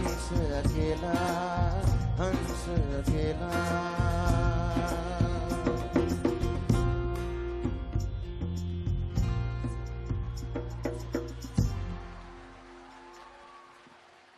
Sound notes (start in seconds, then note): 10.6 applause